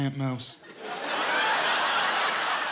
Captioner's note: laughter